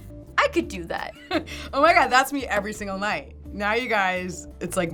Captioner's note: chuckles